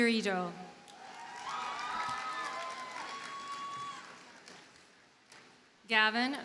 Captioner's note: audience cheers and applauds